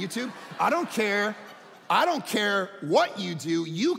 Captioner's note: audience laughing